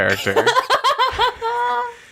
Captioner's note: laughs